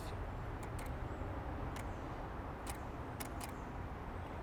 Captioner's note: clicking